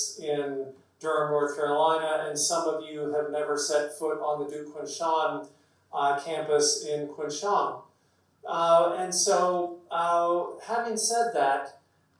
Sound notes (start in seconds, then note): none